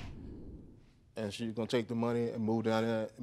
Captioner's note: stuttering